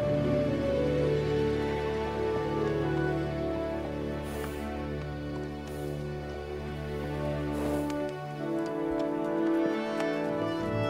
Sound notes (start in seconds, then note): 0.0 soft music continues; 0.3 bright inspiring music; 4.8 hooves clomping; 4.8 horse snorting